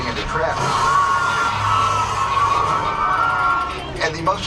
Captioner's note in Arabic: الناس يصرخون